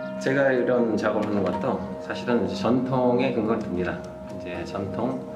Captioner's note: speaking in Korean